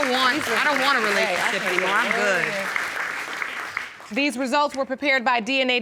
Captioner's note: audience applauds